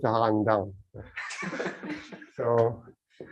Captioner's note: laughter